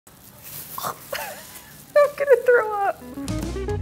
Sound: gagging; light jazz music

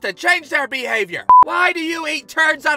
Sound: beep!

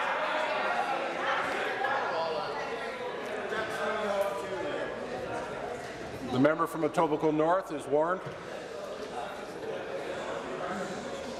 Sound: conversation din

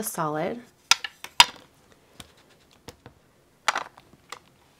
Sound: lid clinks

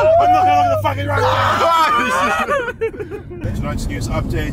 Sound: everyone screams

